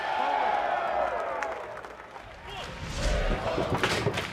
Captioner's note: cheers & applause